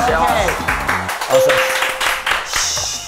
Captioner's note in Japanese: 拍手